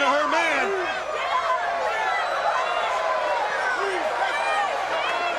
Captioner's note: crowd cheering